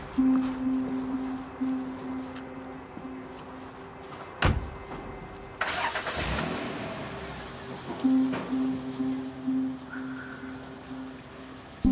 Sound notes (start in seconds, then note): 5.3 car engine starts